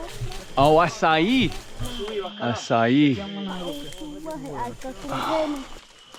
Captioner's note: speaking in foreign language